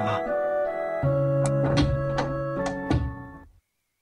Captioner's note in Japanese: 扉の開閉音：ガッチャ･･･バタン